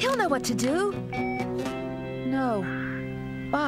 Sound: phone Beeps

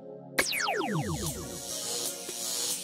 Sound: zapping

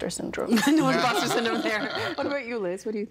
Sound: all laughing

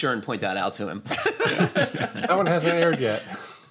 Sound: laughs

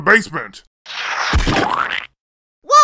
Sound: splat

